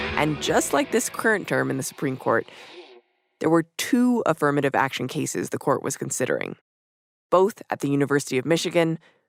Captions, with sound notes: And just like this current term in the Supreme Court. [CHANNELS CHANGING - STATIC DROPS OUT] There were two affirmative action cases the Court was considering. Both at the University of Michigan.